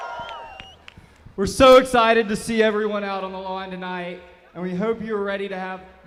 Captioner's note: applause